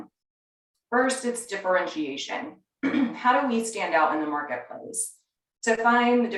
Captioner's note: cough